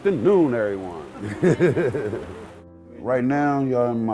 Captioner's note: laughing